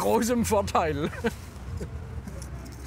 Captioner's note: he laughs